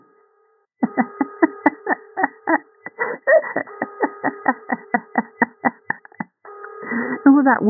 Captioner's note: laughter